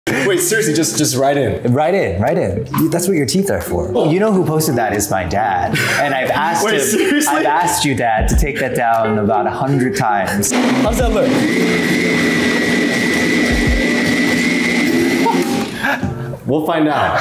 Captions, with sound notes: - Wait, seriously, just right in? - Right in, right in, that's what your teeth are for. You know who posted that -is my dad, and I've asked him. - Wait, seriously? - I've asked you, Dad to take that down about 100 times. - How's that look? (blender whirring) (chuckles) We'll find out.